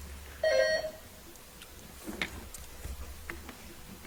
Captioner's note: bell ringing